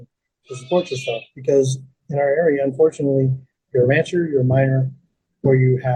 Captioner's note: sheep bleating